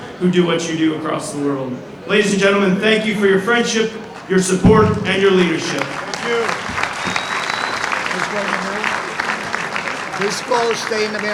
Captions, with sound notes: who do what you do across the world. Ladies and gentlemen, thank you for your friendship, your support, and your leadership. Thank you. (audience applauding) This ball stay in the